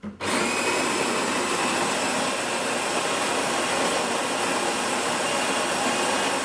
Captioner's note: whirring